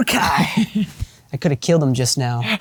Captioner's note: Jacob laughs